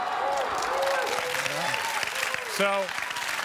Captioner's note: cheers and applause